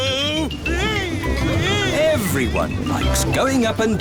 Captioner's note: screaming